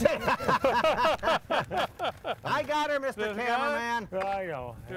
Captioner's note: laughing